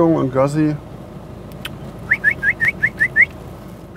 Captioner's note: he whistles many times